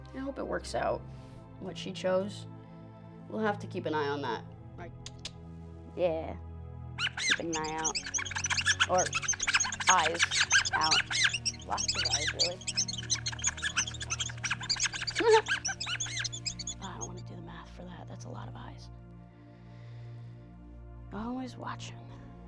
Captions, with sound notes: I hope it works out, what she chose. We'll have to keep an eye on that. (squeaking) Keep an eye out, or eyes out. Lots of eyes, really. (laughing) I don't wanna do the math for that. That's a lot of eyes, always watching.